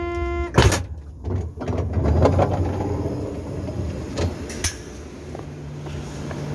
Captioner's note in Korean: 출입문 열림